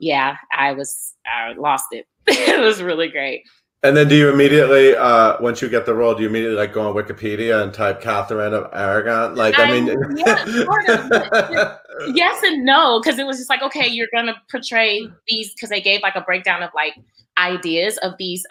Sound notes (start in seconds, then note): 2.6 laughs; 11.3 laughs